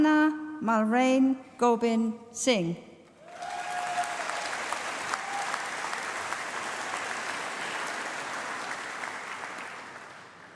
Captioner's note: applause